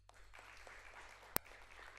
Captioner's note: applause